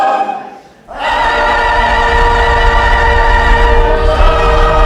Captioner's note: the volcano rumbles